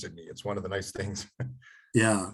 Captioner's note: chuckles